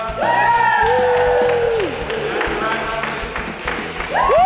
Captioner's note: rock music; band cheering